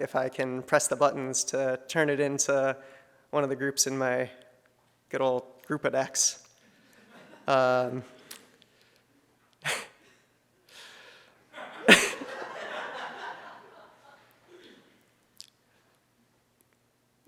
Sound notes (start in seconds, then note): 9.7 chuckles; 11.5 audience laughs; 11.6 laughs